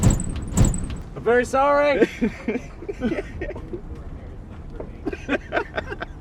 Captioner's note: laughs; laughs